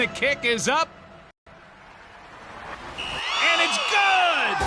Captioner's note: whistle blows